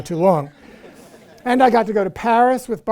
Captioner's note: crowd laughing